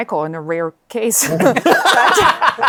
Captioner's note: laughter